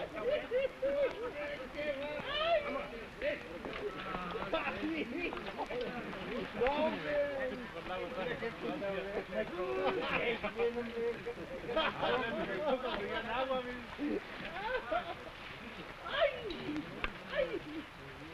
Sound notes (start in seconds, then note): 1.9 men shouting; 1.9 men laughing